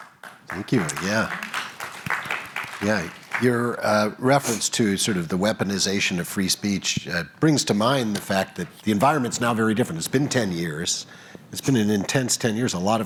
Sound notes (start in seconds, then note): 0.0 applause